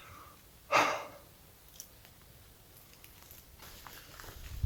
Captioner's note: sighs